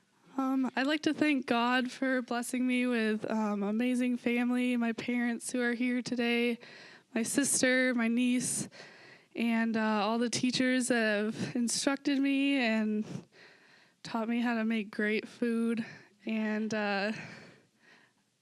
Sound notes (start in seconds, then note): none